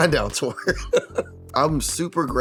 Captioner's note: laughs